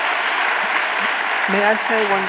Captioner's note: audience applauding